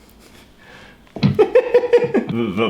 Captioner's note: laughs